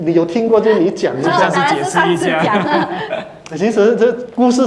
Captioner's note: laughter